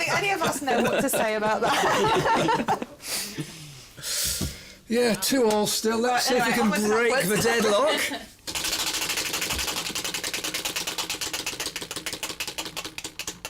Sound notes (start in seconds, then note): 8.4 wheel spinning